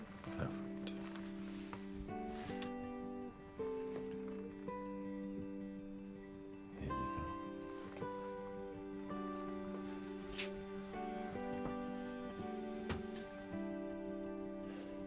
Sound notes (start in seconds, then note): 1.8 gentle music; 8.3 birds chirping; 8.3 gentle music